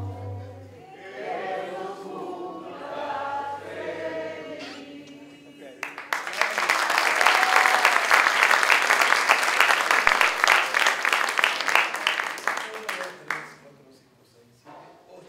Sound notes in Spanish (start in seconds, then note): 5.8 aplausos